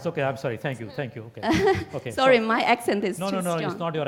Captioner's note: laugh